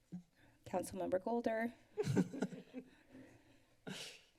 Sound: laughter

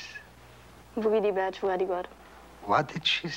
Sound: Molly speaking in foreign language

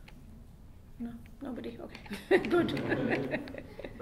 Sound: giggles

